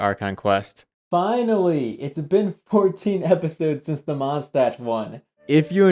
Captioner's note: off mic